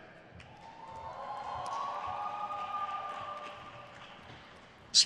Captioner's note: crowd cheers